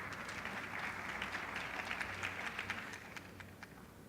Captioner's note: applause